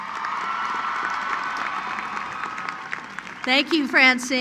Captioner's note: cheering; applause